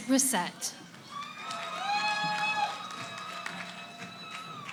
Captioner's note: cheering